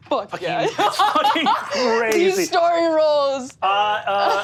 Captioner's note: laughs; laughs